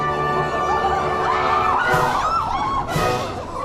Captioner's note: chorus cheers and then shrieks